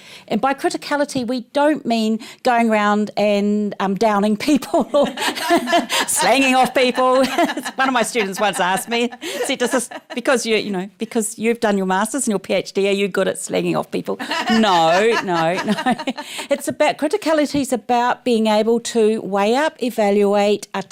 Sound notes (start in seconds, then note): 5.0 laughs